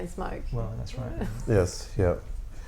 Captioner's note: laughter